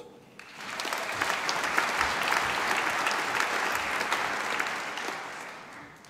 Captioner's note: applause